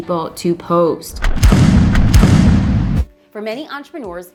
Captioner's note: explosions